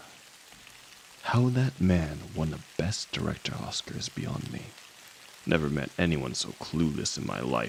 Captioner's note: sighs